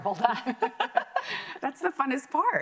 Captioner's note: both laughing